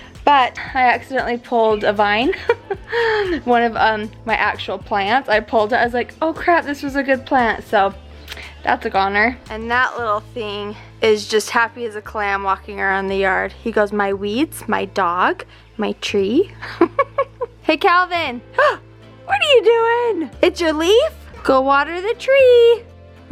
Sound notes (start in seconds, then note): 2.2 laughs; 16.6 chuckles; 18.7 gasps